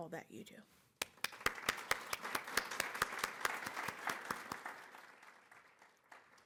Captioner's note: applause